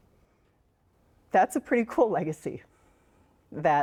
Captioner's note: voice breaks